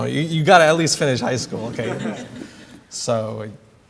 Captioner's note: laughter